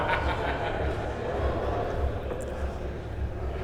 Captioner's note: laughter